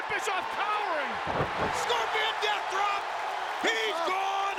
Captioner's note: body thudding